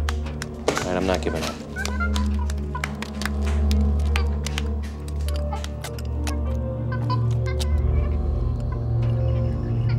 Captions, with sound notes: And I'm not giving up. [monkeys squeaking] [glass clattering]